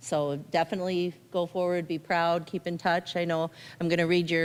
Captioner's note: none